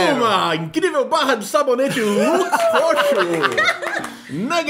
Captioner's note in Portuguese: risos